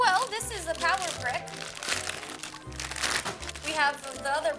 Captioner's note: packaging rustles